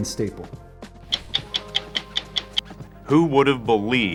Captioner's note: clock ticking